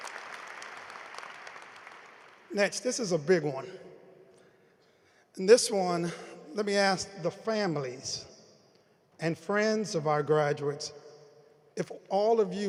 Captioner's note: applause